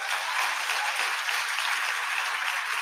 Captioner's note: audience applauding